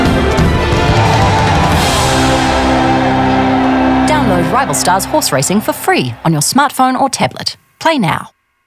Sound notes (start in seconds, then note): 2.3 crowds cheer